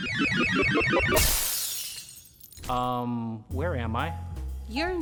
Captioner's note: electronics squeal; glass shatters